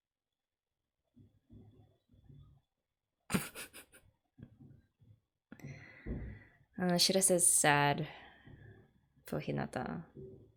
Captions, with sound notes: [laughs] Ah Shirase's sad. For Hinata.